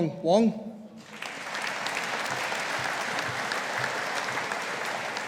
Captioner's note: audience applauding